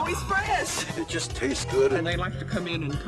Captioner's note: audio distorting